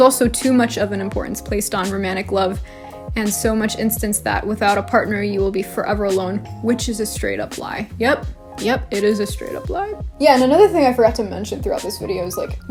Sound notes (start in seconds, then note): none